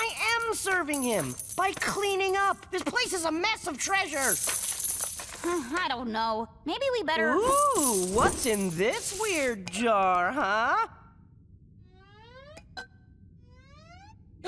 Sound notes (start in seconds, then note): 5.4 sighs